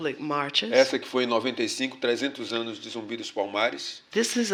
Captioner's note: speaking portuguese